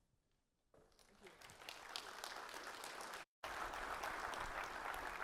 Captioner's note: applause